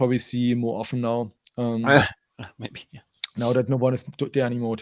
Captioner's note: laughs